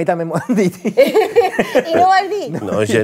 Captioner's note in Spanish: risas